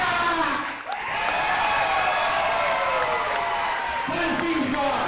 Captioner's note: crowd cheering